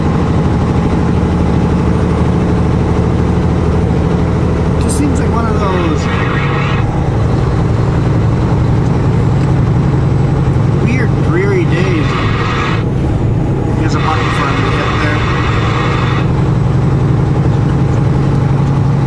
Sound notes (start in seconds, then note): 13.6 radio noise